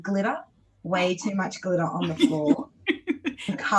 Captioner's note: laughs